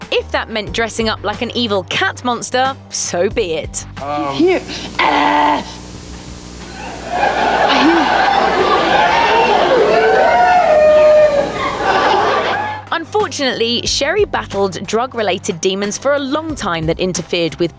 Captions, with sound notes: If that meant dressing up like an evil cat-monster, so be it. "He's here!" [Laughter] Unfortunately, Sherri battled drug-related demons for a long time that interfered with